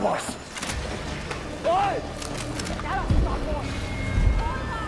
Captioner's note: guns cocking